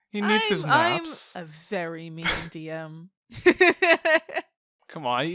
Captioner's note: laughs